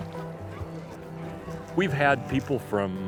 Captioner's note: horses neighing